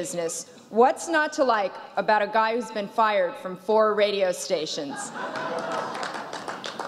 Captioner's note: laughs